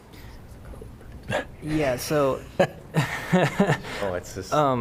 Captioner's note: laughter